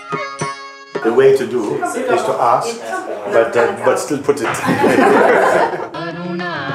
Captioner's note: Lachen